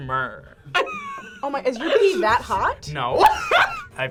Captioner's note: laughs